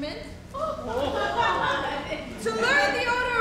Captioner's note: audience laughs